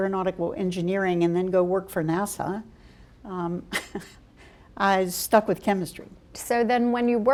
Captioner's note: chuckle